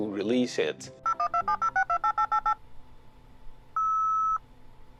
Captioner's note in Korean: 네트워크 연결음